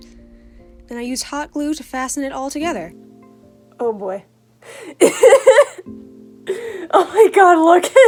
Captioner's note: laughter